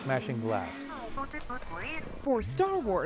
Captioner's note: electronic beeping